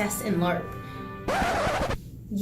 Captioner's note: record scratch and background music cuts out